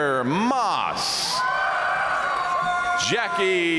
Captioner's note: audience cheering and applauding